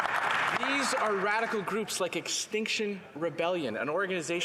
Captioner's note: some Applause